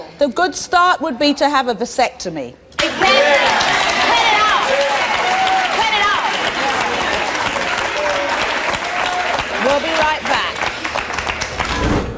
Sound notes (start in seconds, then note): 8.3 audience applauding